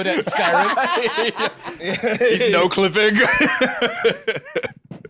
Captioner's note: laughs